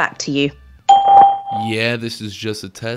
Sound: bell chimes

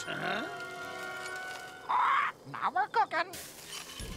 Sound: squawks

